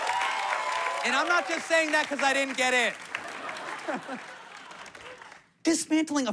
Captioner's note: laughs